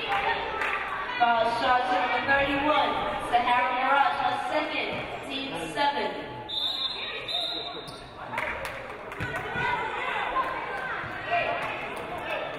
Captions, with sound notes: Foul shot to number 31, Sa-Hara Maragh. Her second, teams seventh. (referee blows whistle)